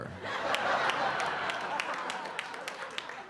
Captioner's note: audience laughing